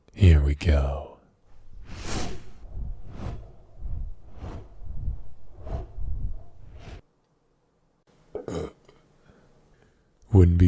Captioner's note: wing noises